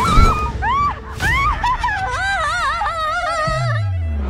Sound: screaming

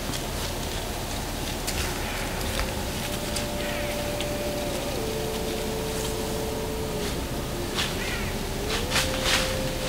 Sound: light wind, bird calls; sound of chasing in the leaves

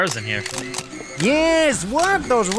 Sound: camera clicking

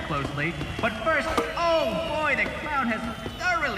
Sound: thunk

